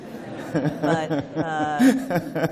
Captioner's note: laughter